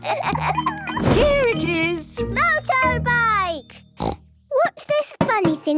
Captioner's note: snort